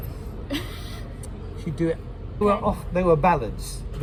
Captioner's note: laughing